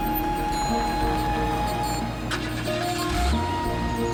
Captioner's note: engine turns over